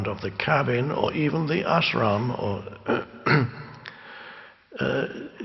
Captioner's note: clearing throat